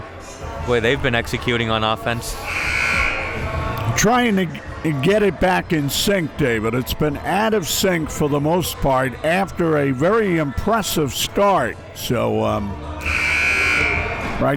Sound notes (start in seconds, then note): 2.4 buzzer buzzes; 13.0 buzzer buzzes